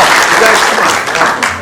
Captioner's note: applause